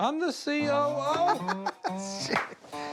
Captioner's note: laughs